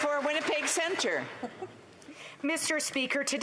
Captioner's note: some Applause